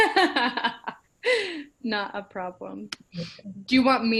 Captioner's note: laughter